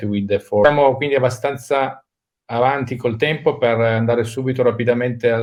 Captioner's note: speaking in foreign language